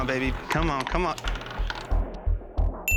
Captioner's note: bell dings